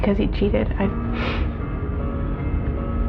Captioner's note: sniffles